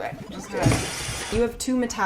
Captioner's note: crashing